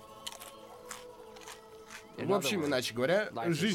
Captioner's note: crunching